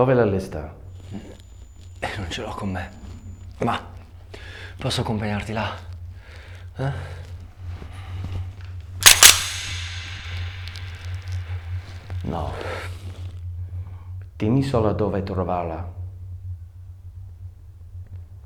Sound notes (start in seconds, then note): 2.3 Martin speaking foreign language; 9.0 gun cocking; 13.1 speaks foreign language